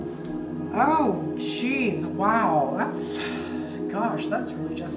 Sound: sighs

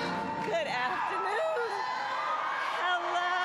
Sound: applause

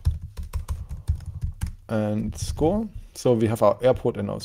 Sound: keyboard clacking

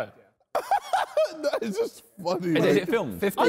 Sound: man laughs

